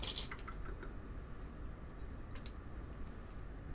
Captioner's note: objects clattering